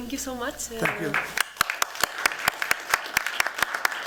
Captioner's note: applause